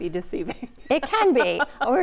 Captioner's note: laughing